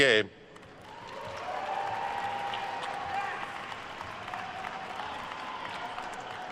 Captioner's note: attendees cheering and applauding